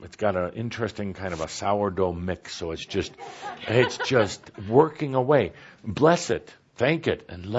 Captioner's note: laughter